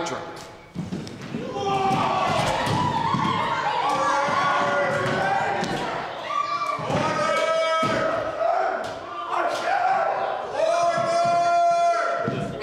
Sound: audience freaking out

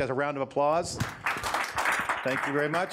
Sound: audience applause

